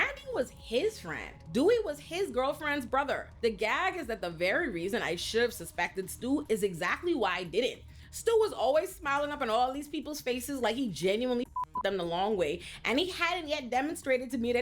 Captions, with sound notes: Randy was his friend. Dewey was his girlfriend's brother. The gag is that the very reason I should have suspected Stu is exactly why I didn't. Stu was always smiling up in all these people's faces like he genuinely (beep) them the long way, and he hadn't yet demonstrated to me